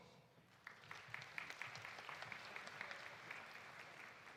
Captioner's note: audience applauding